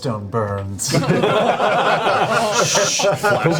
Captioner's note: all laugh